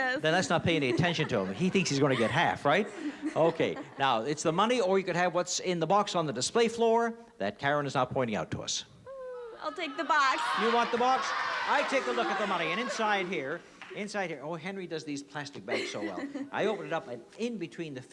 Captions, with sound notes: - Then, let's not pay any attention to him. He thinks he's going to get half, right? OK. Now it's the money or you can have what's in the box on the display floor that Karen is now pointing out to us. - Ooh, I'll take the box. - You want the box? [CROWD SHOUTING] I take a look at the money. And inside here-- inside here-- oh, Henry does these plastic bags so well. I open it up, and in between the fifties